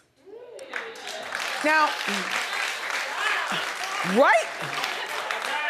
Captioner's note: audience clapping